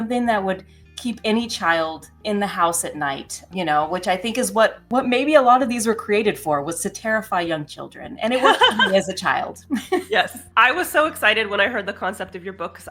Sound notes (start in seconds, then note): 8.3 laughs